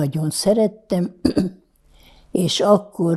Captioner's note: clears throat